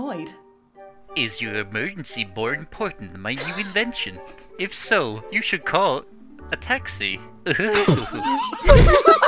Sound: chuckles; laughter

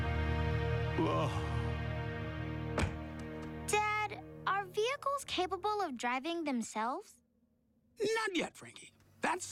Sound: groan

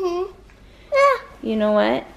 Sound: yelling

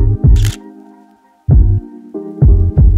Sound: camera shutter clicks

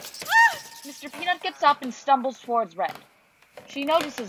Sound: creaky footsteps

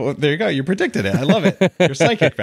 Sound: Adam laughing

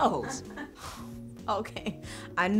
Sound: Cynthia Laughs

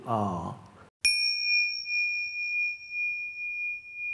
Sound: bell chiming

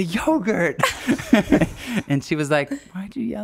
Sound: laughing

